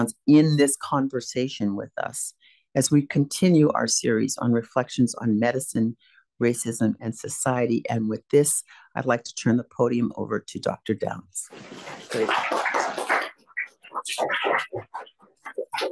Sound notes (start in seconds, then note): 11.6 audience applauding